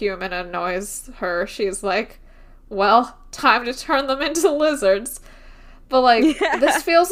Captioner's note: laughs